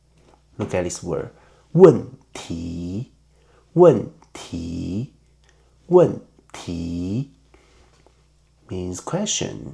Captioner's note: in Mandarin